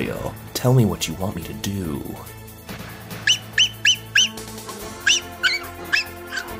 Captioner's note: barking